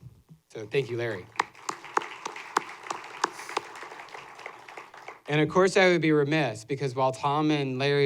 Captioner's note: applause